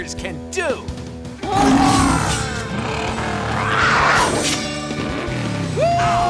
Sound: roaring

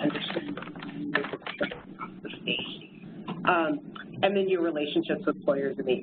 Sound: distorted electronic noises

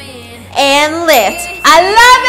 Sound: bell dings

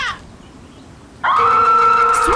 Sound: screams

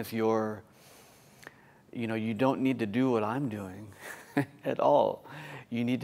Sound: laughter

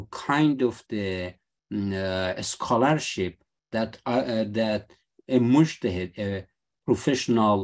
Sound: speaking arabic

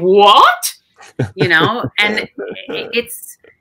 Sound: chuckling

